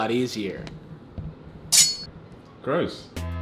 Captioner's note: metal clashing